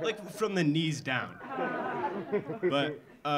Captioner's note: audience laughing